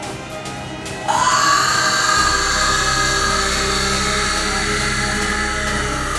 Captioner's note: she screams with fury and fire